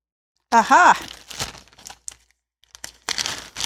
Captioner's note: crinkling